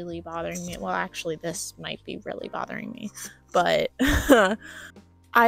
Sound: laughter

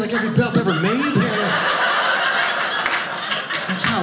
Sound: audience laughing

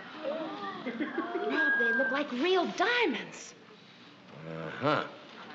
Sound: gasps

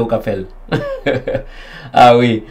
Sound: chuckles

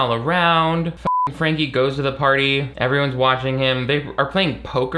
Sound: beep

